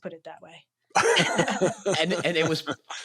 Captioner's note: laughter